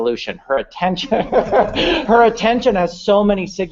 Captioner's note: laughter